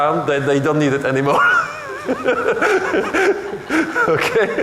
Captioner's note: laughing